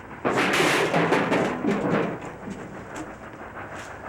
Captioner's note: clattering